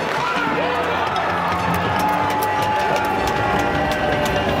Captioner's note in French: acclamations